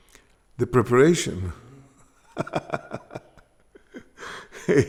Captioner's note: laughs